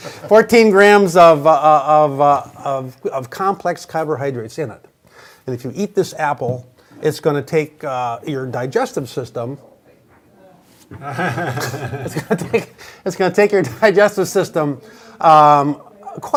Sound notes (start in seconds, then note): 0.0 all laughing; 10.9 laughs